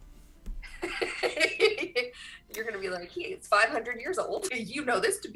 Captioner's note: laughs